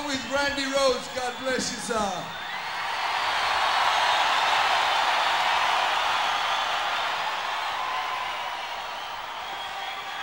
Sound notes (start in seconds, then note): 2.3 audience cheering; 8.5 audience screaming indistinctly